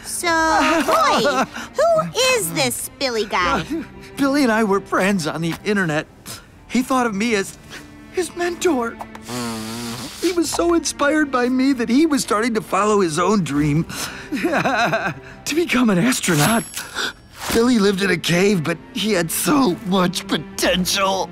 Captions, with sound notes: So, Roy, who is this Billy guy? Billy and I were friends on the Internet. He thought of me as his mentor. [blowing nose] He was so inspired by me that he was starting to follow his own dream. [sobbing] To become an astronaut! Billy lived in a cave, but he had so much potential.